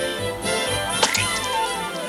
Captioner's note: splat!